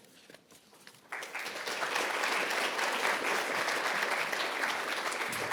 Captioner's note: audience applauding